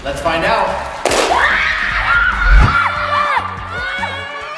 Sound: all scream

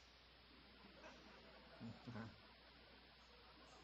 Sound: audience chuckles

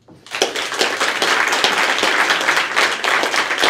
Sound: applause

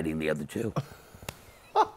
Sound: laughs

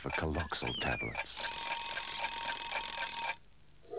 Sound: alarm

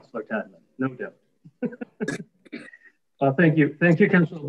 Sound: mayor laughing

